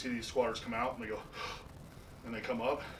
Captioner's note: inhales